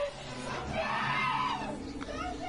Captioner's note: screaming; shouting